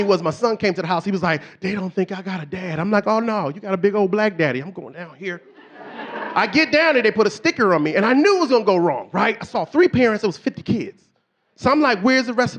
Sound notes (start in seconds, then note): 5.2 audience laughing